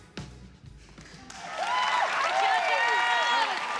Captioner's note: cheering, applause